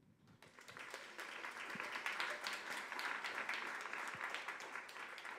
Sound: audience applause

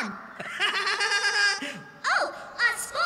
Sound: laughing

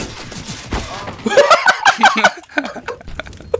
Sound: laughs too; starts laughing

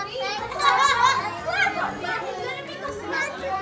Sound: laughter

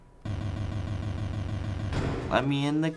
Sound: door opening

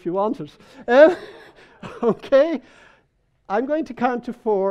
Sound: people laughing

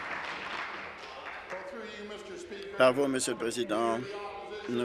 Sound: applause

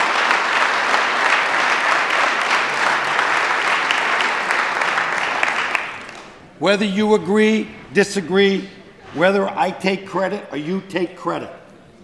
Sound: applause

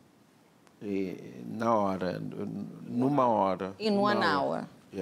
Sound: speaking portuguese

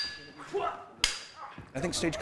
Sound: grunting

